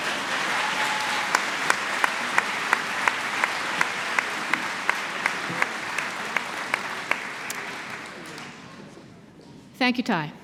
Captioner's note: applause